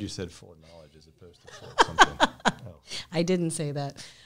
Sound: chuckles

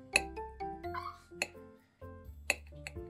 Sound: puppy's scream that can't wait to eat

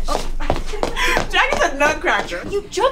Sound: woman laughing

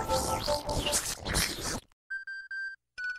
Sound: speaking in lanuage

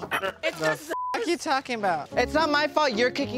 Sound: beep

